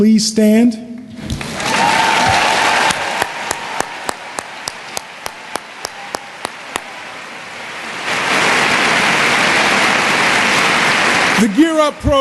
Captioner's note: cheering and Applause